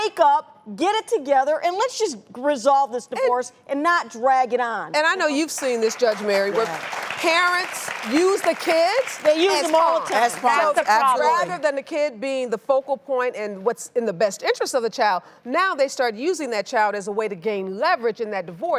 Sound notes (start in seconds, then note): 5.4 applause